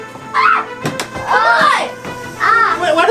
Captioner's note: assistant and screaming